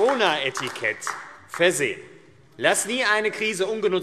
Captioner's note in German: Beifall AfD